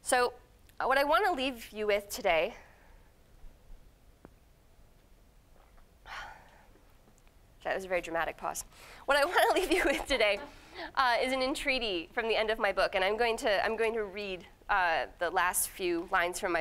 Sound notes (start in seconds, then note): 6.0 exhaling; 9.2 laughing